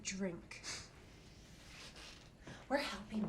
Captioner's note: Ben scoffs